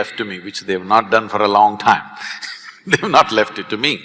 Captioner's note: laughs